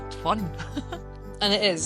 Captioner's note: laughs